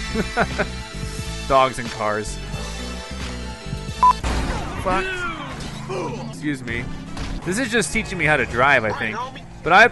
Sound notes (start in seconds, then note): 0.1 laughs; 4.0 beep; 4.2 crash